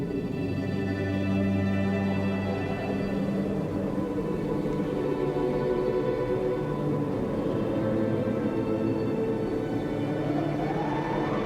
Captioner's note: whistling wind